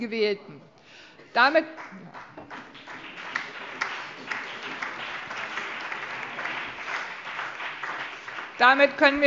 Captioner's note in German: Allgemeiner Beifall